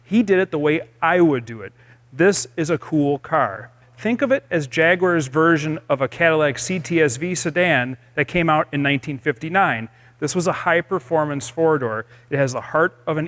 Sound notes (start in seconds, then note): none